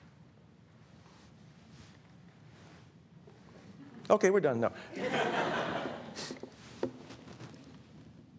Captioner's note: laughter